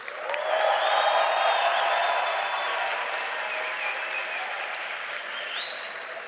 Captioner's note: audience applauding and cheering